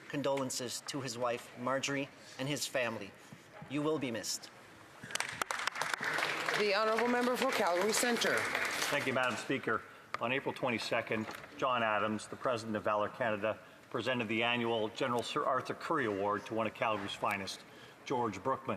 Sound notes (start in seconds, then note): 10.1 some Applause